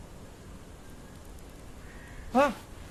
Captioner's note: insect skittering